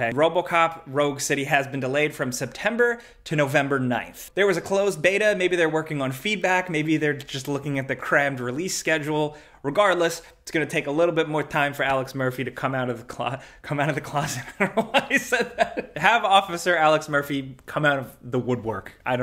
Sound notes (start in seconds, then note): 14.3 laughs